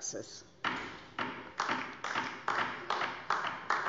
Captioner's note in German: Beifall DIE LINKE